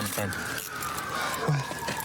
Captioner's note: sirens grow louder